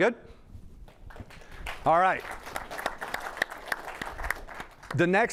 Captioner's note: applause